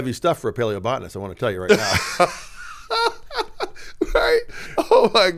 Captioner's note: laughing